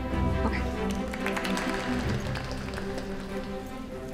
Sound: quelled audience applause; triumphant music

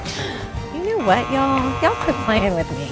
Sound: buzzer

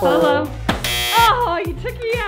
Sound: buzzers buzzes

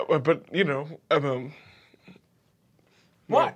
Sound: stuttering

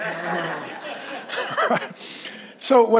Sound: laughs

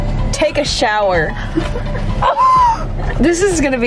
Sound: laughing

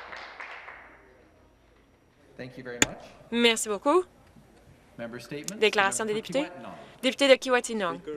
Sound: some Applause

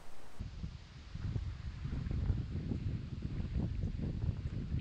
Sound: wind

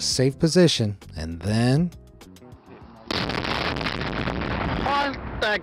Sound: bag blasting

